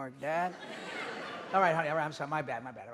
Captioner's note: audience laughing